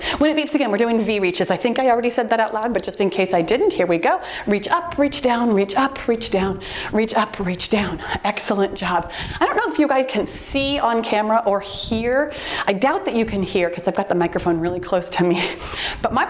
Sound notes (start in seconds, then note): 2.4 timer beeps